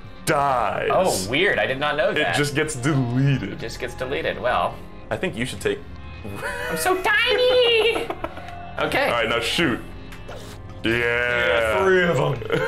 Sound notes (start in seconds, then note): 6.2 wheeze